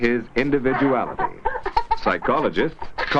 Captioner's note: laughing